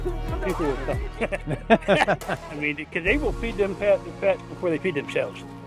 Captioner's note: laugh